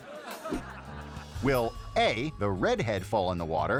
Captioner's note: audience laughing; bell ringing